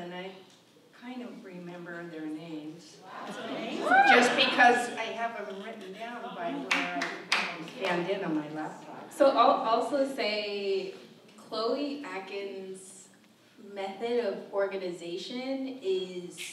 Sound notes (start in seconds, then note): 3.0 audience member cheers